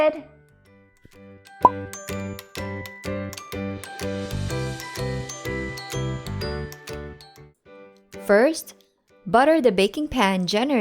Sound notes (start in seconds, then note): 1.6 bottle pops